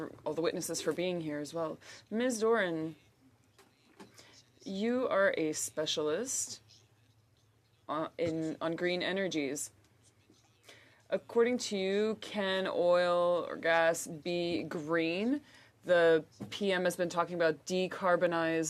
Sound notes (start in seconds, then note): 3.7 speaking French